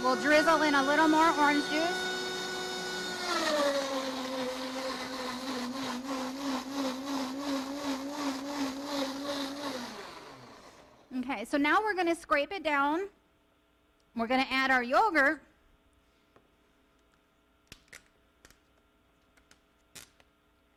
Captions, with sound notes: We'll drizzle in a little more orange juice. (blender roaring) Okay. So now we're going to scrape it down. We're gonna add our yogurt.